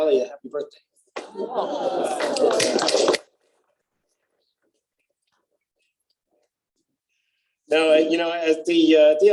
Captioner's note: applause